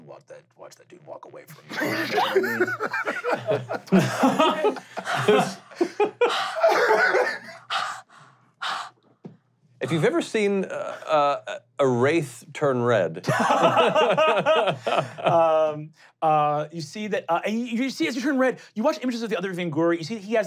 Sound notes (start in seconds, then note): 1.5 laughing; 4.5 gasping; 13.6 laughing